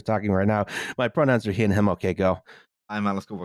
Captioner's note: gasps a breath